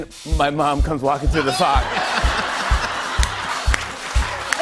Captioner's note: laughter